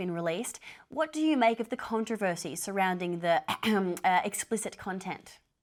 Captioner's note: coughs